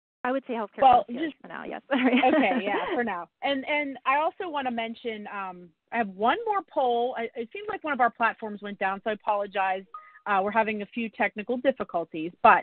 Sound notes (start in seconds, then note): 1.9 laughs